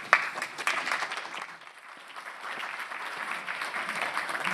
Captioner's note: audience applauding